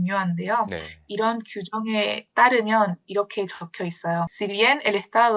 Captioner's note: in Spanish